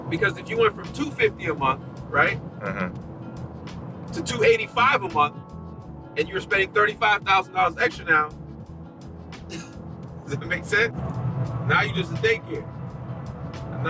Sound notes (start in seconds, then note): 9.5 laughing